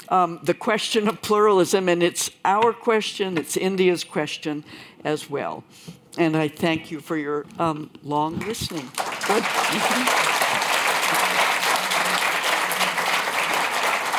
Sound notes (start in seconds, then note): 8.4 applause